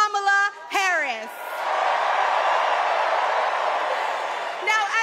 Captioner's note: cheers and applause